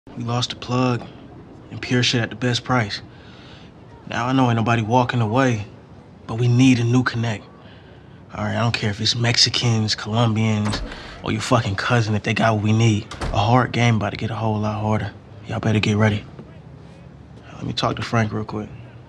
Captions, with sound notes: We lost a plug, and pure shit at the best price. Now, I know ain't nobody walking away. But we need a new connect. All right, I don't care if it's Mexicans, Colombians, or your fucking cousin if they got what we need. [DOOR CLOSES] A hard game about to get a whole lot harder. Y'all better get ready. Let me talk to Frank real quick.